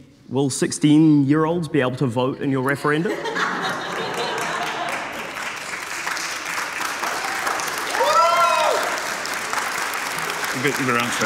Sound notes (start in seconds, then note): 3.0 audience laughing; 3.9 audience cheering and applauding